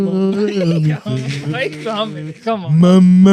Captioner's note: humming